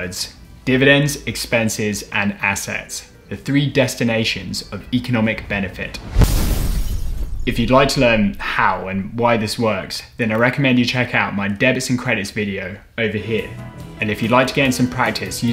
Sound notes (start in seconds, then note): 5.4 explosion